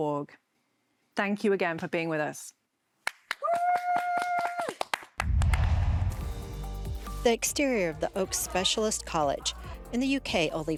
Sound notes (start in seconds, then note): 3.0 applause; 3.4 cheers